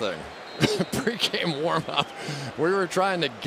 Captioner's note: chuckles